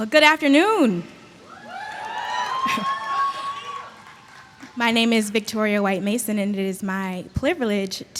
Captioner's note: applause